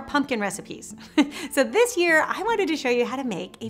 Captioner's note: chuckling